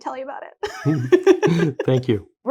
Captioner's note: both laughs